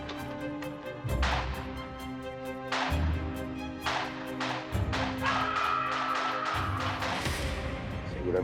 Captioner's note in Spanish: gemidos